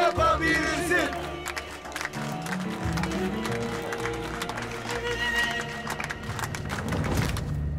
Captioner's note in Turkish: Alkışlıyorlar